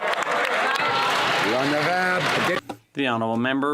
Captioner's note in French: voix de l'interprète